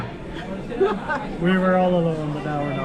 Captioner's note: laughs